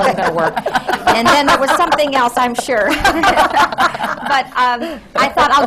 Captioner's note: laughter